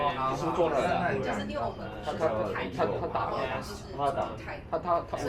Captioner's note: speaking in foreign language